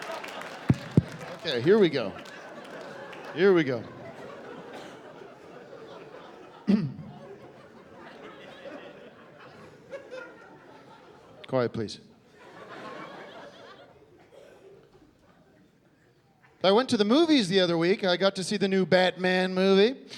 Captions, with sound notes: Okay, here we go. Here we go. [clearing throat] Quiet, please. So I went to the movies the other week and I got to see the new "Batman" movie.